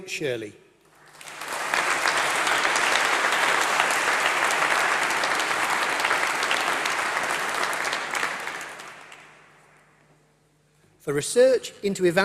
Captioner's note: applause